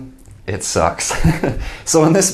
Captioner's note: laughing